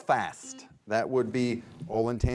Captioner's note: buzzer buzzes